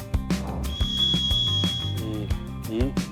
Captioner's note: sound of brain overheating